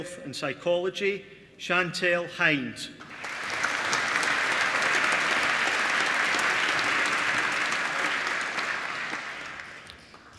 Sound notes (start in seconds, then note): 3.0 applause